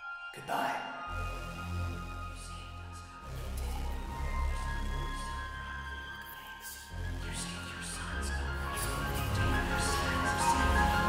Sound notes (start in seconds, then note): 3.9 whispered; 7.7 disembodied whispers continue, instrumental builds